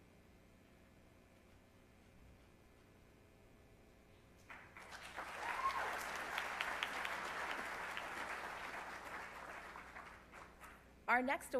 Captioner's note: applause